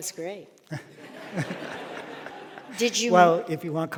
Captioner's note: audience laughing